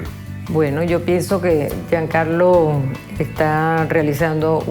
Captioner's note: speaking Spanish